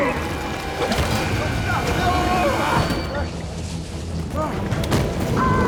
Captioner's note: Shaz and Walter shouting